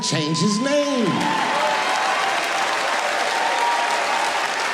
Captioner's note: audience cheering